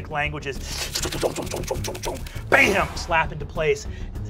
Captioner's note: thumping and whooshing